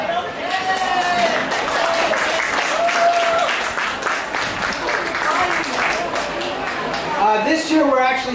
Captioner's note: applause